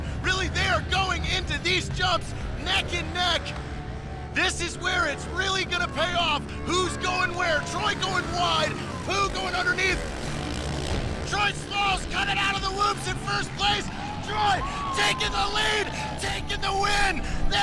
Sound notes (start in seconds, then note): 9.8 engines revving